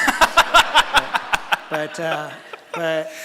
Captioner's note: laughter from audience